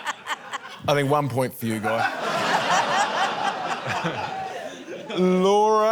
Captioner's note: laughter